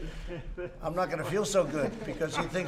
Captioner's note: laughter